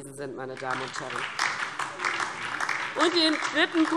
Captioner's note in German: Beifall DIE LINKE